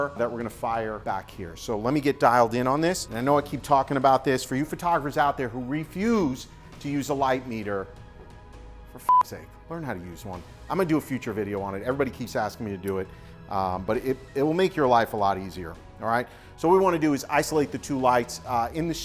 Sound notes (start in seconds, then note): 9.0 beep